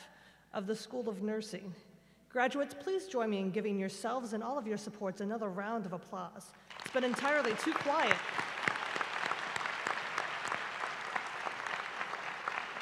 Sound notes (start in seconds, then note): 8.3 applause